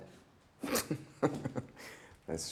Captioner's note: Wes giggling